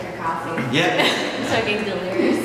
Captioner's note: laughter